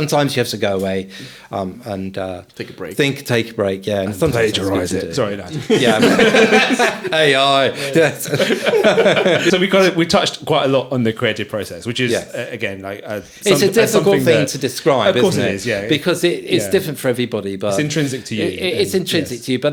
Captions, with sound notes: Sometimes you have to go away and... Take a break. Think, take a break, yeah. And Plagiarise it Sorry, no. (laughing) AI so we touched quite a lot on the creative process, which is, again, like something that... It's a difficult thing to describe, isn't it? Of course it is, yeah. Because it's different for everybody, but... It's intrinsic to you. It's intrinsic to you,